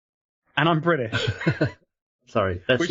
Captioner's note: laughing